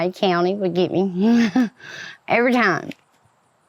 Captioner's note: laughs